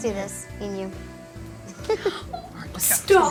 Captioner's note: giggle